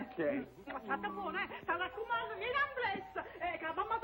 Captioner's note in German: spricht spanisch